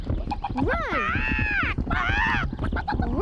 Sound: squawking

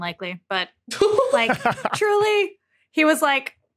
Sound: laugh

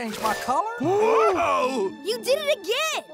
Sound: gasping

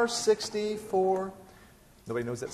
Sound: stops singing

